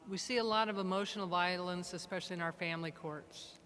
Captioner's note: none